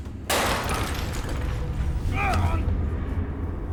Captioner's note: vase shattering